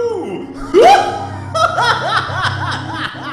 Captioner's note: laughing